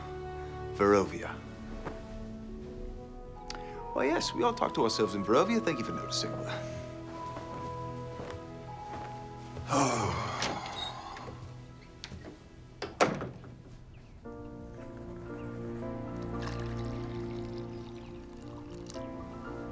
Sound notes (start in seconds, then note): 9.4 sighs; 12.8 door clicks; 14.3 light music; 16.2 liquid trickling